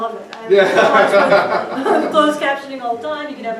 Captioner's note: crowd laughs